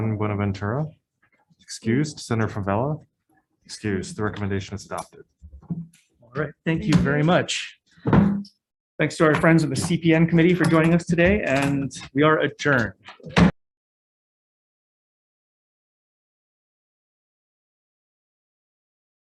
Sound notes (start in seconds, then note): 13.2 gavel strikes